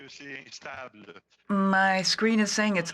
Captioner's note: speaking French